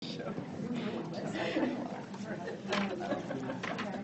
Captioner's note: students conversing